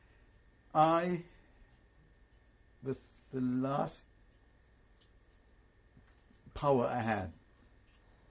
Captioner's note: pauses for 3 seconds